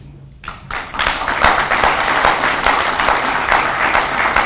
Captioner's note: audience applauds